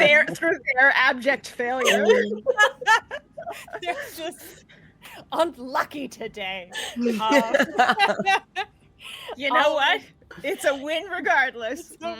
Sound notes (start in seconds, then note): 1.8 laughing; 6.8 group laughing